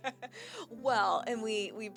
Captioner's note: laughing